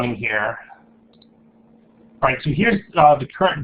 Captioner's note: clicking